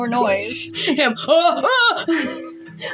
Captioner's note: snicker; panicked Shouts; snicker; quiet Laugh